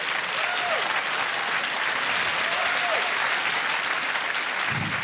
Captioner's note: applause